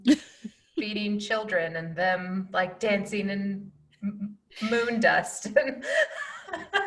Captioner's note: laughing